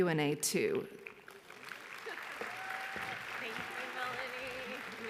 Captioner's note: audience applauds